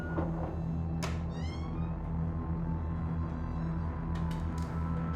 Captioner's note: creaking door